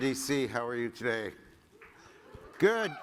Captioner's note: applause